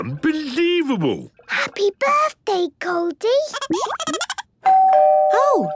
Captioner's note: Goldie giggling; doorbell ringing